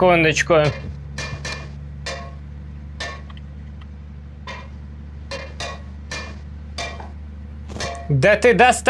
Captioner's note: the hum of a crane motor; hitting a metal surface with a hammer